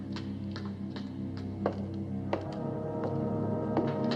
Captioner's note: footsteps approaching